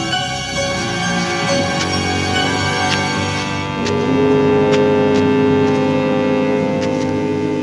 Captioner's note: scraping sound